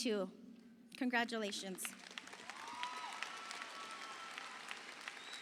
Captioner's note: audience applauding